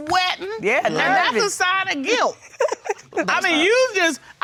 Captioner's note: laughs